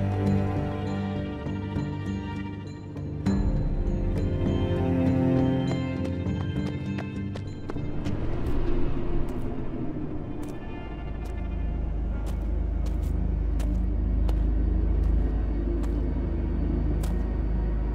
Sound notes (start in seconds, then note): 0.1 tense music; 5.4 fast footsteps; 8.5 slow, cautious footsteps; 16.5 ominous music